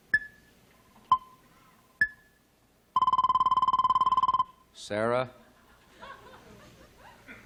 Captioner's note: beeping